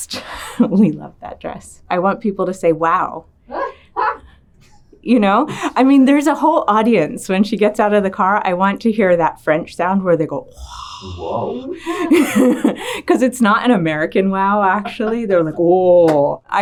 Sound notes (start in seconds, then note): 0.3 laughs; 3.9 Dakota laughing; 10.5 mimicking people gasping in awe; 11.5 laughing